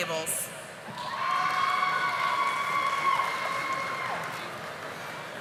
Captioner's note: audience applauding